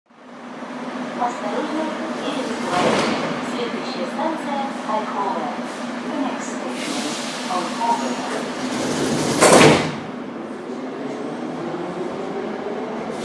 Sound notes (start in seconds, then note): 1.6 closing doors of train opposite; 7.6 closing doors